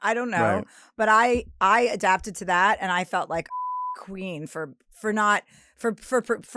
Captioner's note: beep